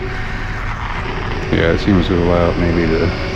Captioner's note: electric motor screaming